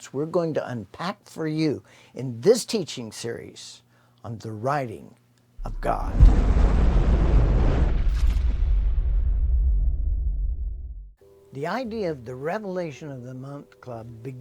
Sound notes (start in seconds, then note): 7.1 thunder rumbling